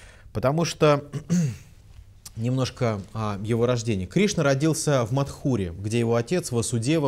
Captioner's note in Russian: откашлялся